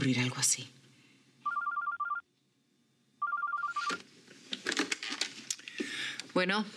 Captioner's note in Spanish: suena el teléfono